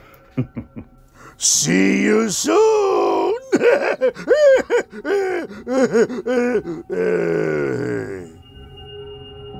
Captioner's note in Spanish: risa malvada